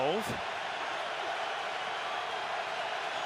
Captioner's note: crowd cheering